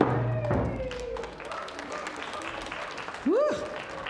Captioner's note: applause